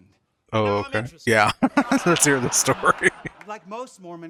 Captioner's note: chuckling